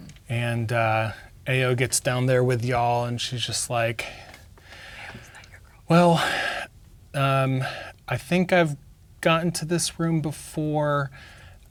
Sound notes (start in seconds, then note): 4.2 someone whispering